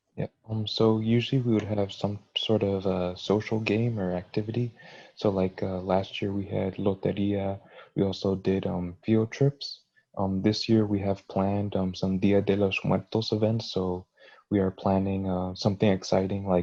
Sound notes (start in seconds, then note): 6.1 foreign language; 12.1 foreign language